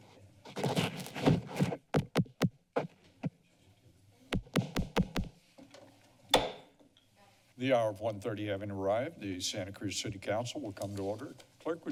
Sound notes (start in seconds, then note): 2.3 rustles; 6.4 gavel tap